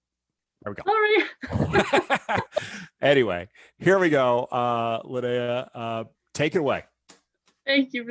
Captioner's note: laughs